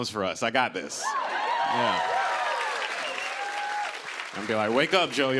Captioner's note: cheers and applause